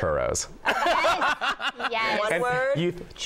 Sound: laughter

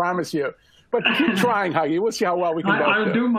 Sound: laughter

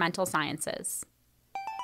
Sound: chime

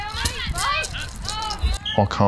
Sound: soccer ball rolls

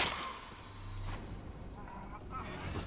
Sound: groaning

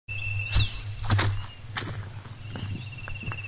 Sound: footsteps

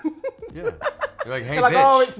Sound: laughs

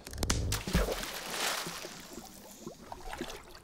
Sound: splashing water

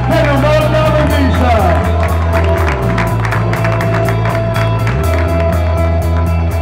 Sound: applause

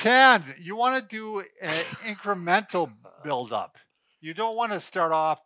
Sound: laughs

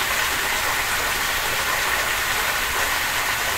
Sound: sounds like rain

